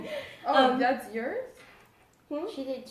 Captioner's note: laughter